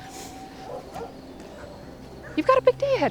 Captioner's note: dog barking